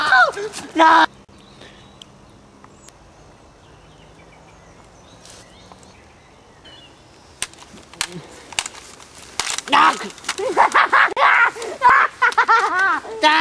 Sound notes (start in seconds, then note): 8.0 gasps for air; 10.4 evil Laugh is heard